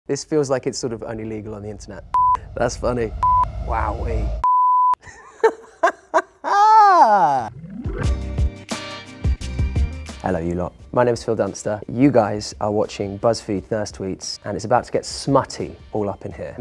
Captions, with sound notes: - This feels like it's sort of only legal on the internet. That's funny. Wowee. (Phil laughs) (mellow music) Hello, you lot. My name's Phil Dunster. You guys are watching Buzzfeed "Thirst Tweets." And it's about to get smutty all up in here.